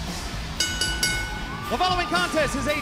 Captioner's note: bell ringing